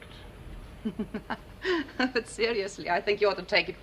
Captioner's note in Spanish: Risas